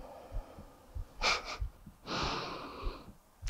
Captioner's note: chuckles